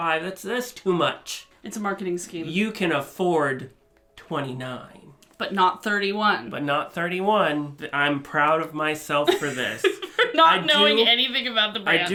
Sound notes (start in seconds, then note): 9.3 laughs